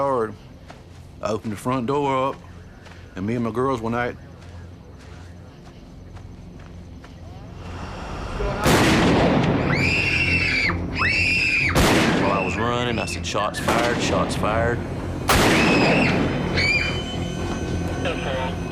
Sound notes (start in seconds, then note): 8.6 gunshot; 9.6 girls scream; 16.5 screaming continue